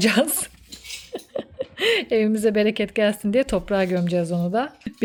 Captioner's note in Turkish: kahkaha